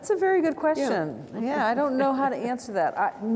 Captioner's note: chuckles